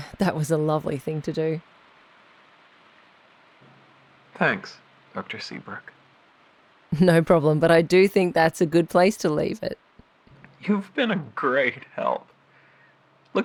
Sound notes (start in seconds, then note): 2.1 SFX: Outside ambient noise fills the silence